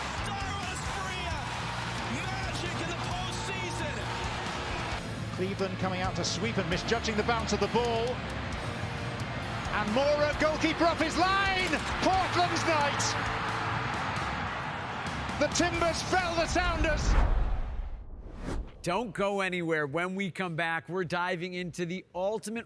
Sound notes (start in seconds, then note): 12.9 crowd cheers